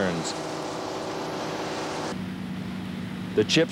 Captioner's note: machinery running